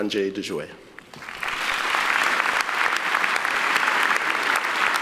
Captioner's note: applauding